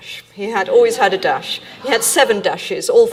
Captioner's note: audience laughing